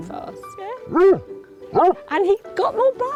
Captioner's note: dog barking